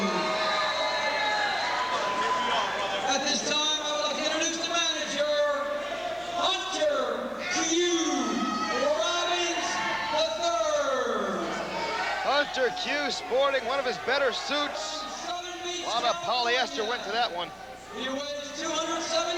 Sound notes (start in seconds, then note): 7.1 crowd cheering